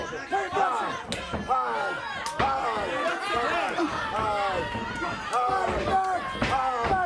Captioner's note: blows thudding; footsteps plodding